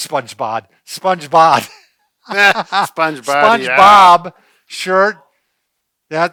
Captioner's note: laughs